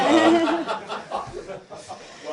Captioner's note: laughter